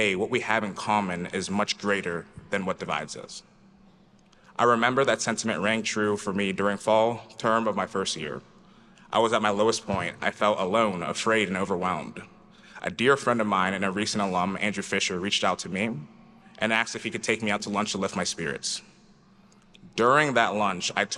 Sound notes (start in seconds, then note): none